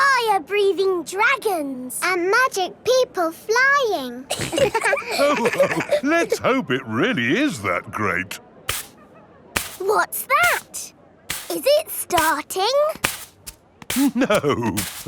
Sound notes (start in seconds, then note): 4.3 all laughing; 9.5 brushing